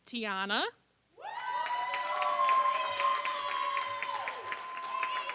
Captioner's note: applause